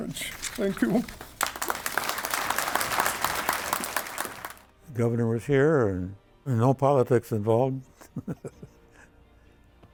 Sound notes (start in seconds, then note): 0.3 audience applauds; 9.0 laughs